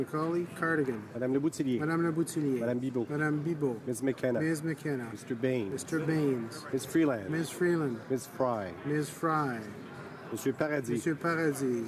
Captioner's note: calling of recorded vote